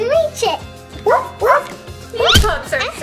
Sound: puppy barking

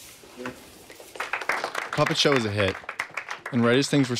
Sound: applause

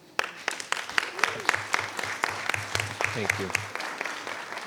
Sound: attendees applauding

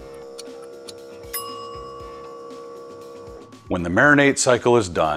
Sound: timer ringing

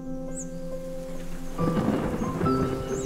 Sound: thunder crackles; distorted synth instrumental rumbles

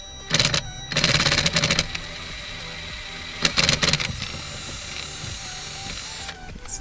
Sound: drilling

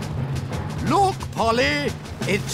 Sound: none

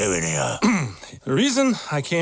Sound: Ralph clears throat

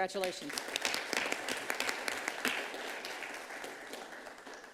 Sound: audience clapping

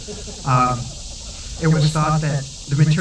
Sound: laughter

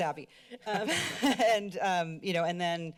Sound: laughter

